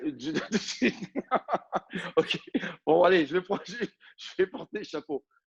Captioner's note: laughs